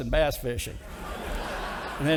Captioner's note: audience laughing